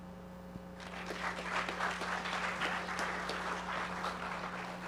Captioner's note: audience applauding